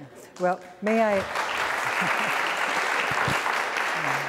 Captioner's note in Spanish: applause